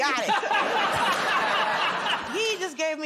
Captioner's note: laughter